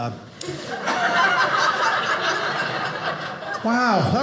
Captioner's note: audience laughing